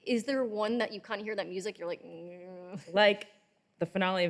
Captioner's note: groans